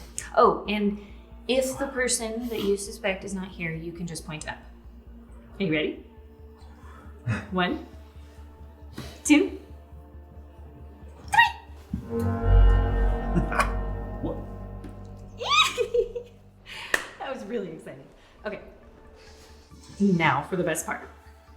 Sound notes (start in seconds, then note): 12.2 suspenseful music; 15.6 guest chuckling